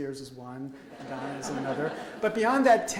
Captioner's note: audience laughs